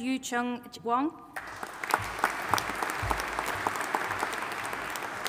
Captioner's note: audience applauding